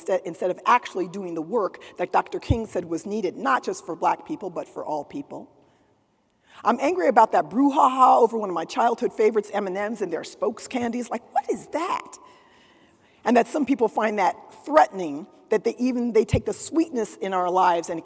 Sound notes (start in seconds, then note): none